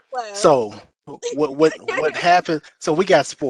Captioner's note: laughter